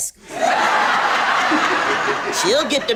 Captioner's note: audience laughs